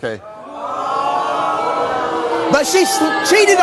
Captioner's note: audience booing